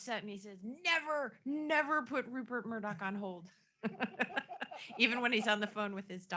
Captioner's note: laughs